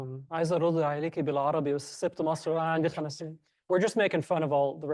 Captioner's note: speaking foreign language